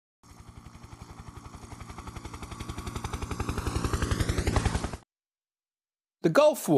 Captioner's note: helicopter in flight